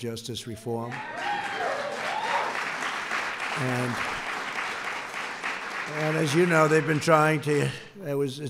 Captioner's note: applause